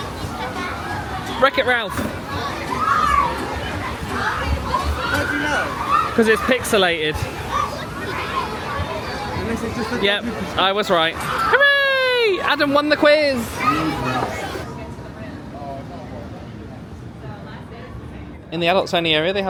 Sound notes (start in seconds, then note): 3.6 children shouting